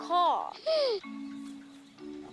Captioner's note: gasps